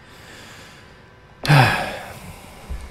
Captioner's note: sigh